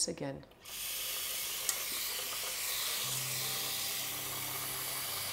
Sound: water running

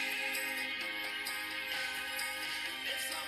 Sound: bells ringing

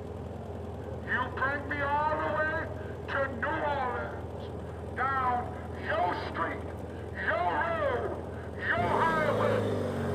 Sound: on a megaphone

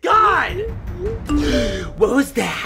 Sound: text message alert sounds

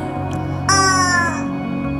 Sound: howling

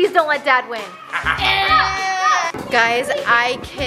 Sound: evil chuckling

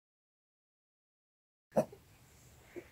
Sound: barking

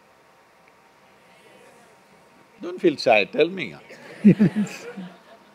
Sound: laughter

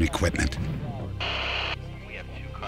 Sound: static from a walkie talkie

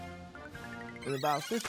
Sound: rewinding

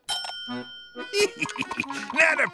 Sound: laughing

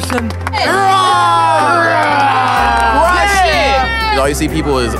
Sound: laughing; cheering

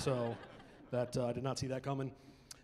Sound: chuckling

